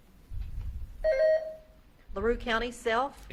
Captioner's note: beep buzzing